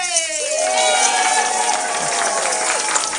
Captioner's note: applause